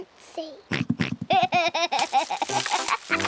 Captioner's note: oinks and giggles